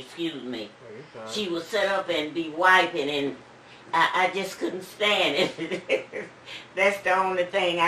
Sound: laughs

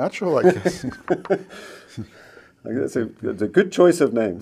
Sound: laughs

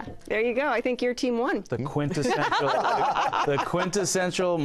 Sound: laughter

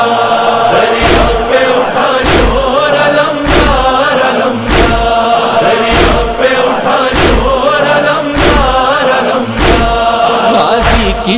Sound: chanting

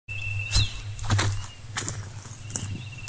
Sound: footsteps

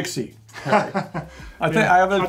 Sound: laughs

